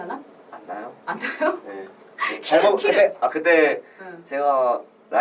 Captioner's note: laughs